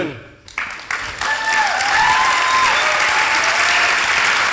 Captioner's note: applause